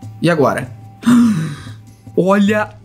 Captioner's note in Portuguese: faz som de surpresa